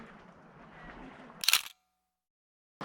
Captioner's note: camera click